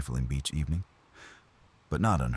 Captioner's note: wind Blowing